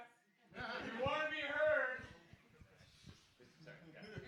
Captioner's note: shouting